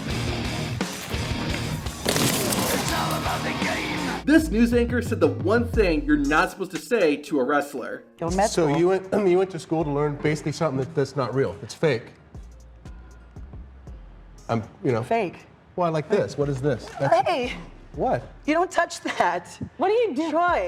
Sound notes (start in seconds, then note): 1.7 wood splitting